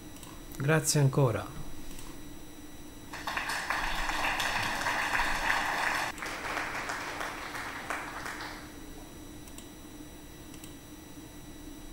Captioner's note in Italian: Applauso